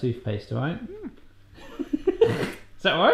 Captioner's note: laughing